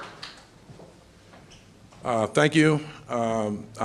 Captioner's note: applause